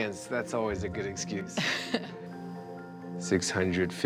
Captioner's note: laughs